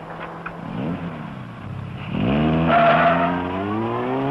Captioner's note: engine roaring; tires screeching